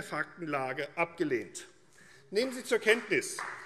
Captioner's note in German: Beifall